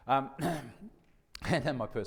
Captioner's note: coughs